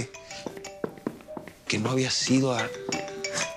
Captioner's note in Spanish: Suena el celular